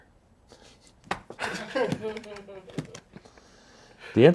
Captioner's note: everyone laughs